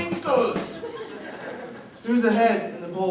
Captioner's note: laughter